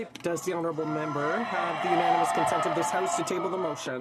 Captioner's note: applause